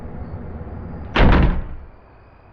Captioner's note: door slams